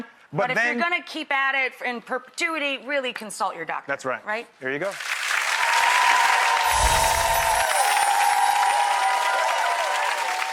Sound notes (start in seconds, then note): 4.8 applause